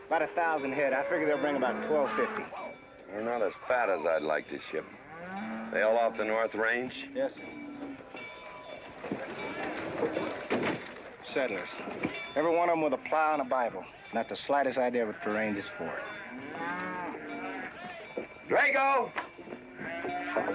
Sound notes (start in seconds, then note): 15.7 cattle mooing